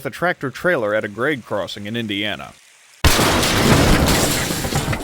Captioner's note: crash